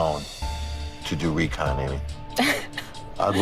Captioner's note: chuckling